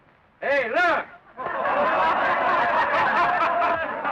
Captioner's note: laughing